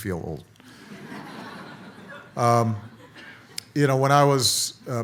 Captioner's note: audience laughs